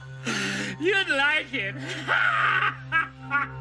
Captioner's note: laughing